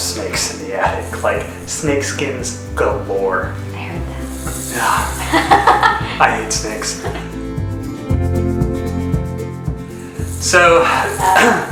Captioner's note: shakes rattle